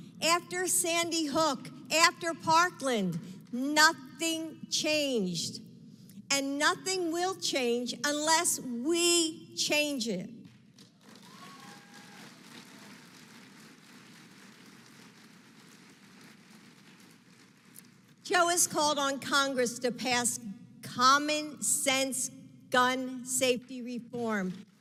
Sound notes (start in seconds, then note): 10.7 applause